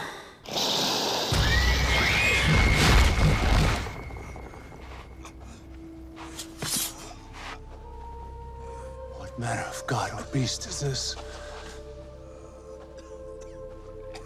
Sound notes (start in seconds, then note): 1.4 women screaming; 6.6 mysterious music; 13.8 mysterious music; 14.0 men coughing